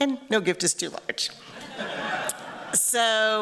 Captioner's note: laughter